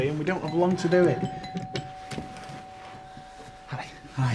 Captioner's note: ringing bell